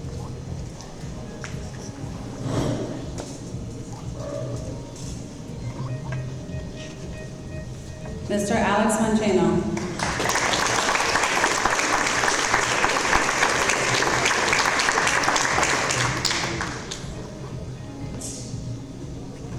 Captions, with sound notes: Mr Alex Vonchano. (audience applause) Congratulations.